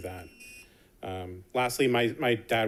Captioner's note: alarm buzzes